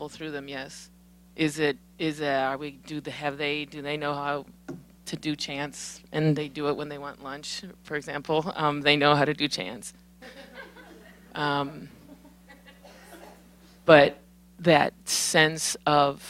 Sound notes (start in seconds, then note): 10.2 laughter